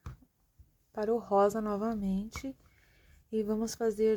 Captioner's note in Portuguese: sopro